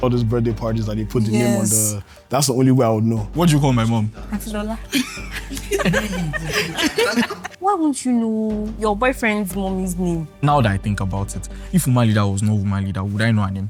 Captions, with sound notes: all those birthday parties that they put the name on the- Yes. That's the only way I would know. What do you call my mom? Aunty Lola. [laughs] [laughs] Why won't you know your boyfriend's mommy's name? Now that I think about it, if Woman Leader was not Woman Leader, would I know her